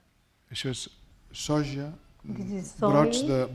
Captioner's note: speaking spanish